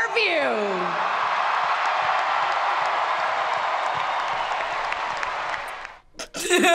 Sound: spectators cheering; laughing

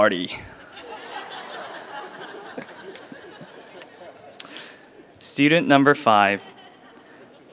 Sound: laugh

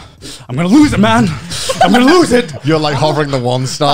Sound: laughing

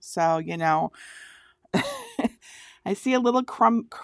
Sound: laughing

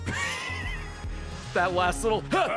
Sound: laughs

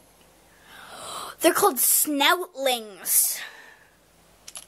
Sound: gasp

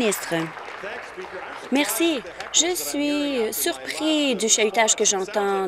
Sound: applause

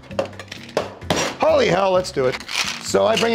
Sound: cheerful music; ice cubes clinking; shaker tin banging

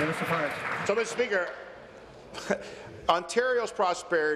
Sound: applause

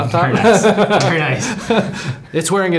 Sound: both laughing

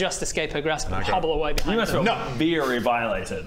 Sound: slap

